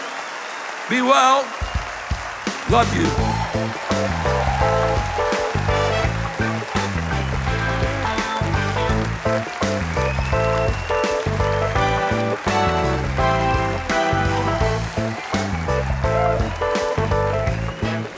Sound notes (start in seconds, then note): 4.5 cheers and applause